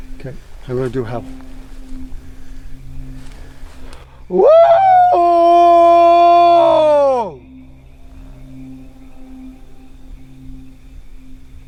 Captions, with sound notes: - 'Kay, so I'm gonna do a howl. (Howls) (Suspenseful music)